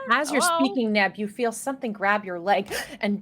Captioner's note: gasps